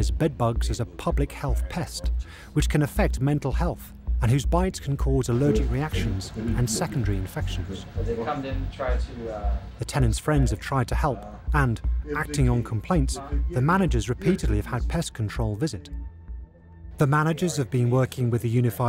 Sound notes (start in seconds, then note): 8.0 talking in background